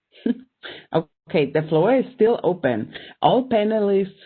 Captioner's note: giggling